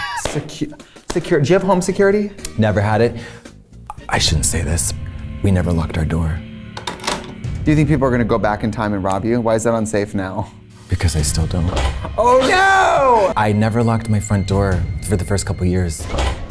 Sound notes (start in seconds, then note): 0.0 laughing; 4.8 ominous music; 6.8 lock clicking